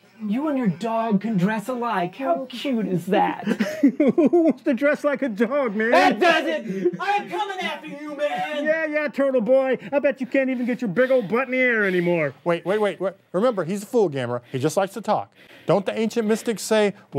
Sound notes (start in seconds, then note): 5.7 laughs